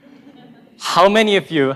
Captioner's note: group laughing